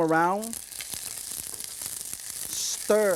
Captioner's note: oil sizzles